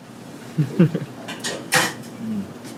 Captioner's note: laughs